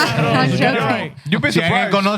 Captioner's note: speaking Spanish